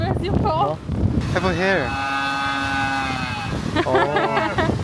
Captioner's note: cows looking at us and bellowing loudly